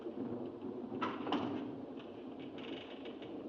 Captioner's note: door closes